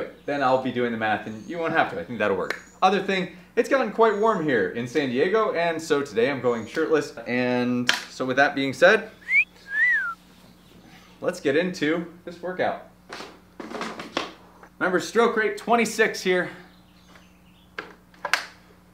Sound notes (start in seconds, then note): 9.2 person whistling